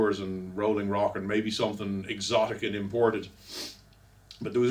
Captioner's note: sniffles